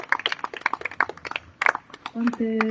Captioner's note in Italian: Applauso